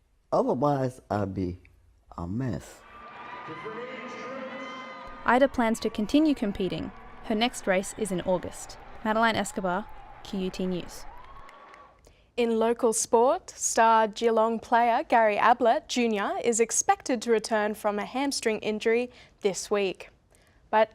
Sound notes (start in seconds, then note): 2.9 crowd cheering